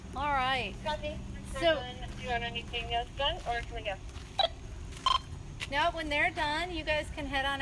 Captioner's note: radio